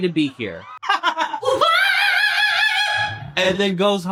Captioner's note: laughs